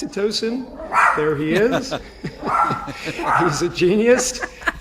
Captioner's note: Susie's dog barks